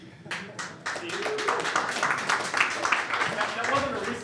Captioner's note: clapping